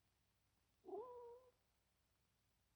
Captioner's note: dog whining